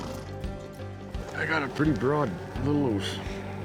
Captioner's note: horse blusters